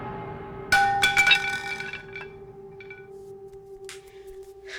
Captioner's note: bat clanking